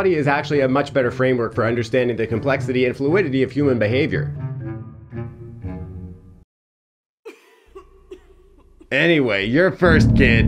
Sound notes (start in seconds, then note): 4.4 dramatic music; 7.2 attendee coughing